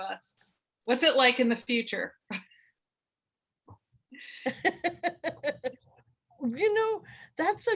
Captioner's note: laughter